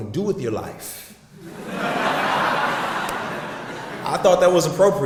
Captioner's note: audience laughs